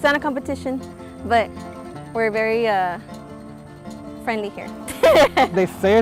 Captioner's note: laughs